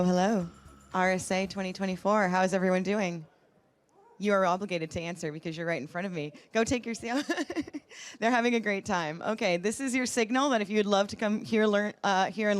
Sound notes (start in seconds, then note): 7.1 laughs